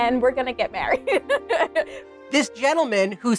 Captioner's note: laughs